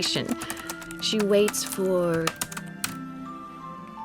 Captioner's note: typing stops